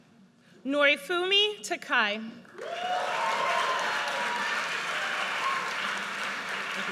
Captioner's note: audience cheers